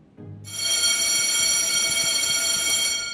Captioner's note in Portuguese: Alarme